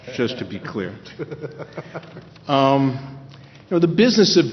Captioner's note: laughter